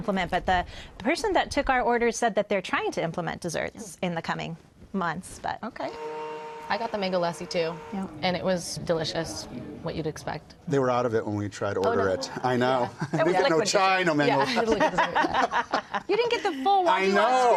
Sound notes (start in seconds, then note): 14.3 laughter